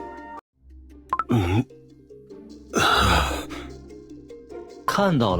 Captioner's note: gasp